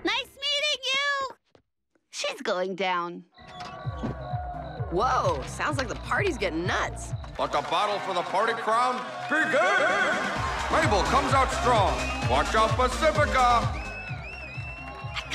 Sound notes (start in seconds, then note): 3.5 raucous party sounds